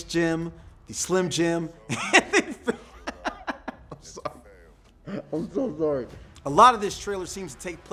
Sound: laughs

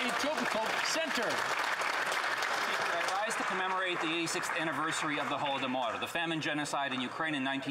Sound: some Applause

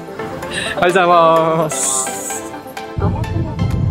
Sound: greeting host in japanese

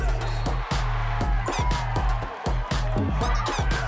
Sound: crowd cheering

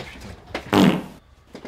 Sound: fart

